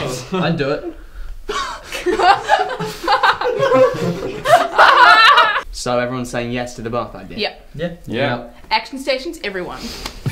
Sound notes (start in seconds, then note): 1.5 laughing